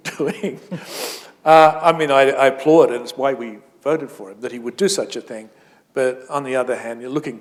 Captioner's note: chuckle